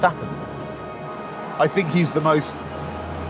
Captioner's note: crowd cheering